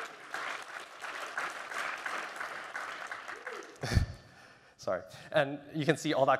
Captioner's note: applause